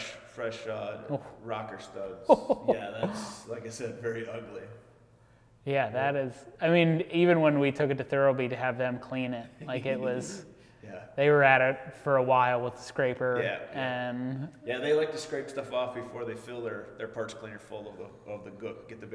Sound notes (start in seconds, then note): 2.2 laughing